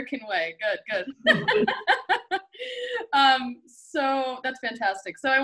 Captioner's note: both laugh